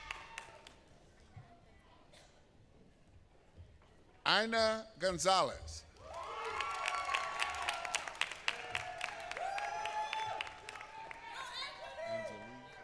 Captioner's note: applause